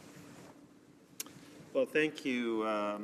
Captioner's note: speaking French